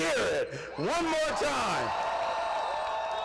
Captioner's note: cheers and applause